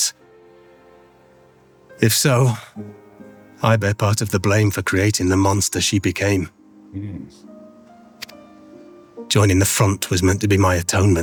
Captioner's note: hums